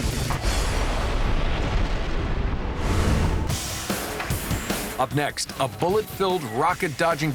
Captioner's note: crashing